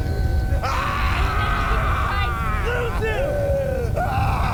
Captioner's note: Malkam groaning; Malkam screaming